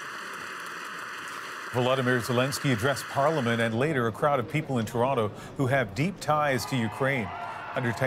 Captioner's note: applause